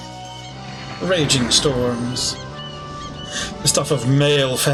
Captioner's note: seagull calls; thunder